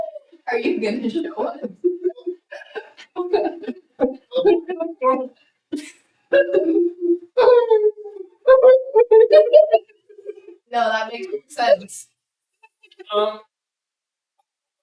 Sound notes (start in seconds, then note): 4.7 weepy laughter